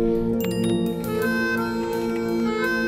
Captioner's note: Phone chimes